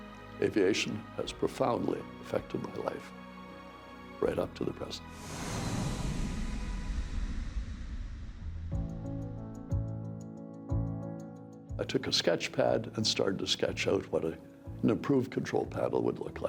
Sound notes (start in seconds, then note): 5.2 plane engine roars; 8.8 upbeat music